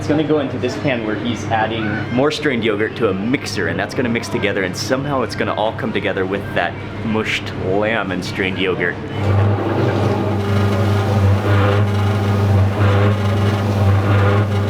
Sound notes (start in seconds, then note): 9.1 machine whirring